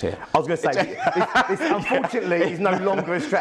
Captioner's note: laughs